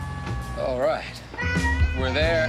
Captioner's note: yelling